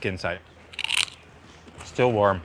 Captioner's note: fish skin crunching